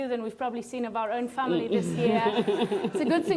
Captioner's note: laughs